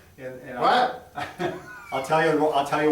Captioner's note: chuckles